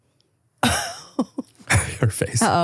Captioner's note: laughing